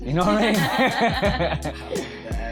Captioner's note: both laugh